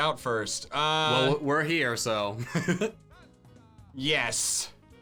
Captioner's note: laughs